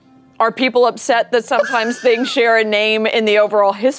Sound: laughter

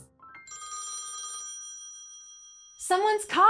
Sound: phone ringing

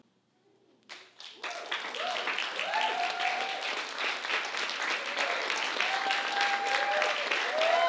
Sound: applause

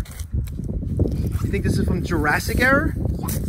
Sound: wind blowing

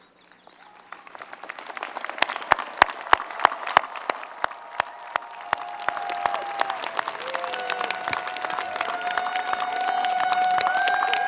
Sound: applause

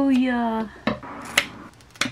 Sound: scissor cut; scissor cuts

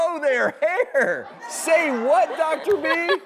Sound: audience laughs

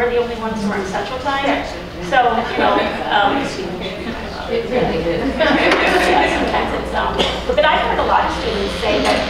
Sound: audience chattering

